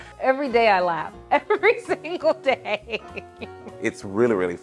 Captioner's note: laughing